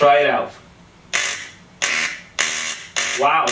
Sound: buzz buzz buzz

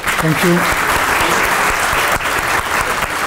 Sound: applause

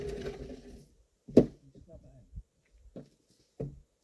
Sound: furniture scraping

